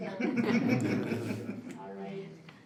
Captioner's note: group laugh